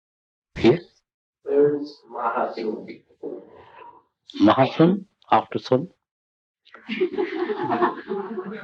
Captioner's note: laughter